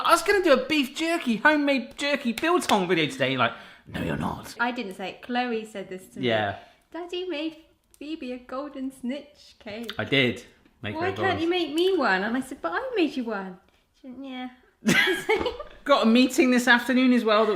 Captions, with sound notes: I'm like, "I was gonna do a beef jerky, home-made jerky biltong video today." You're like, "No, you're not." - I didn't say it. Chloe said this to me. - Yeah. - "Daddy made Phoebe a golden snitch cake." - I did make her-- - "Why can't he make me one?" - And I said, "But I'll make you one." - She went, "Nyeah." (laughing) - Got a meeting this afternoon, as well,